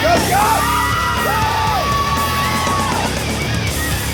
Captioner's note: screaming